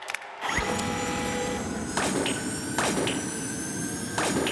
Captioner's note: digital whirring